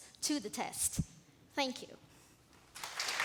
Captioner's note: applause